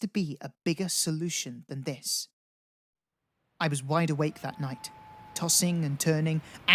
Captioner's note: night-time ambience